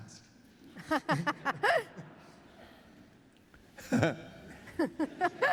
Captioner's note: laughter